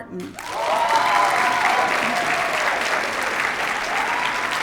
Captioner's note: cheers, applause